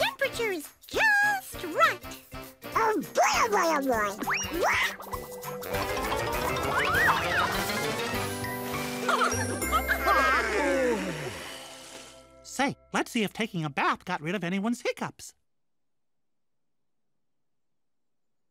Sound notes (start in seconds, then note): 9.0 all laugh